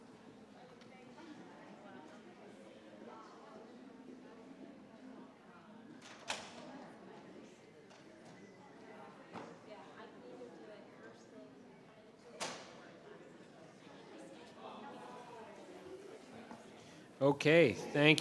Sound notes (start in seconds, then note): 14.6 crowd chattering continues